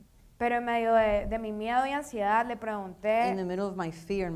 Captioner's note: speaking in foreign language